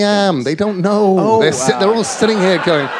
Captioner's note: laughter